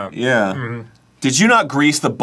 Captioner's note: hum-chewing